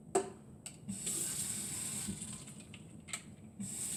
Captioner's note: running water